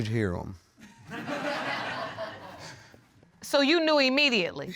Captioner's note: audience laughing